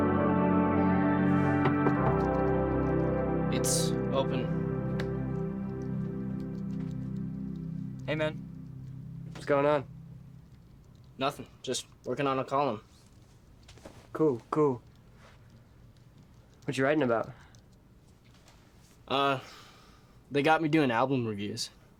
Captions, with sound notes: [knocking] It's open. Hey, man. What's going on? Nothing. Just working on a column. Cool, cool. What you writing about? Uh, they got me doing album reviews.